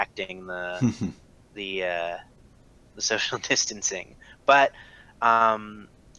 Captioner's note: laughs